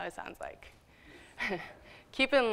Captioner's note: laughs